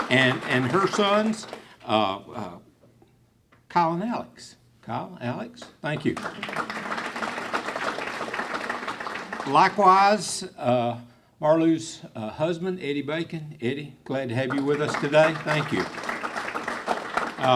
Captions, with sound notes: And her sons, Kyle and Alex. Kyle, Alex, thank you. (clapping) Likewise, Marlo's husband Eddie Bacon. Eddie, glad to have you with us today, thank you.